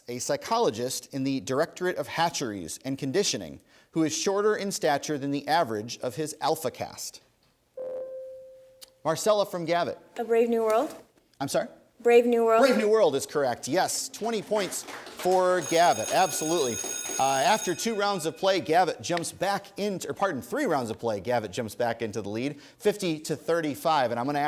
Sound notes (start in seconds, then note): 7.8 ding; 17.0 applause; 17.7 bell ringing